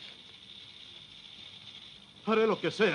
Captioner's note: sonajeros de serpientes